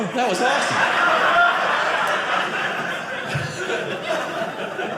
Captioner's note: audience laughing